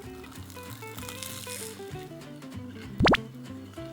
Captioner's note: Crunch